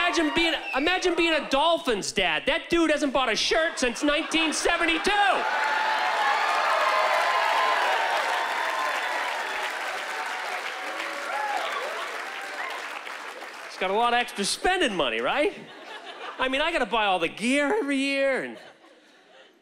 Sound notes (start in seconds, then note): 6.2 cheering and applause